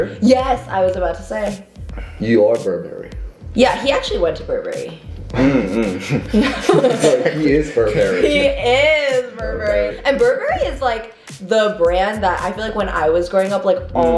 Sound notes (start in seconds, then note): 5.4 all chuckles